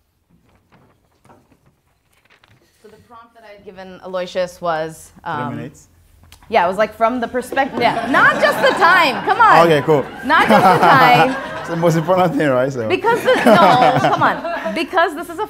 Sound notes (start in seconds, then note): 7.6 audience laughs; 10.3 laughs; 12.9 laughs